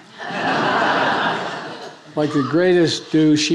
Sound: attendees laughing

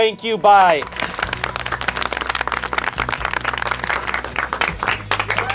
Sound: audience clapping

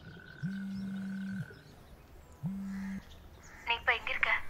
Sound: phone Ringing

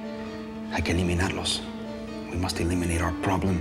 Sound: spanish

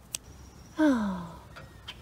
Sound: sigh

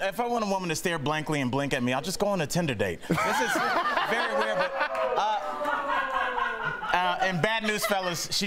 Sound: laughter

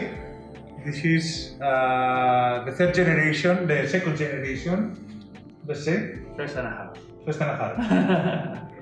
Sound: chuckles

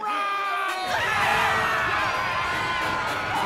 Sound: screaming

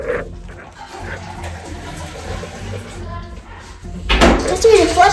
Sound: toilet flushing

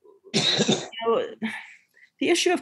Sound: someone coughing

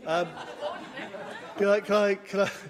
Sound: laughter

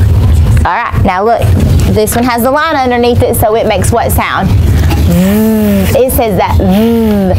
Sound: buzzing

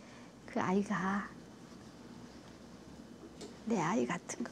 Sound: speaks foreign language

